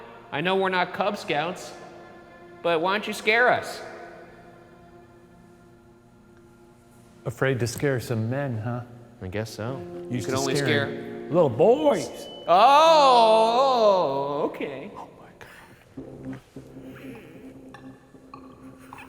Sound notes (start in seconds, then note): 12.2 light beeps